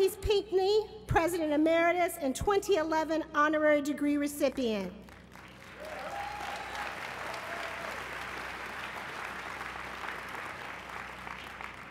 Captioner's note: applause